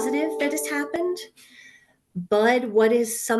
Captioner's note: computer chimes